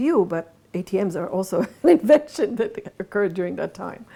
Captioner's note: laughs